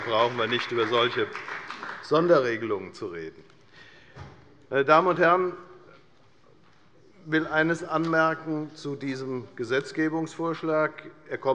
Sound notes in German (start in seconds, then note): 3.4 Beifall bei der FDP